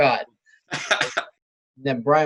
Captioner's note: laughs